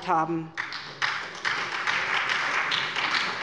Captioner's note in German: Beifall bei der SPD, dem BÜNDNIS 90/ DIE GRÜNEN und der LINKEN